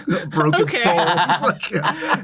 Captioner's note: laughter